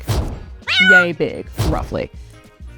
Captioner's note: poof; cat meows